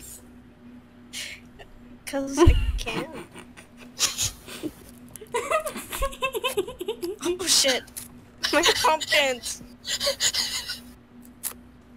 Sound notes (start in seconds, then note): 5.2 cat giggles